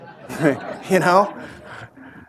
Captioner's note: laughter